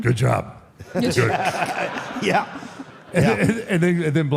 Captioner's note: laughs